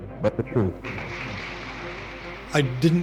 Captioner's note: crowd applauding